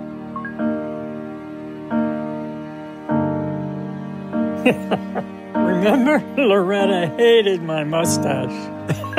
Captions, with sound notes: (laughs) Remember Loretta hated my mustache.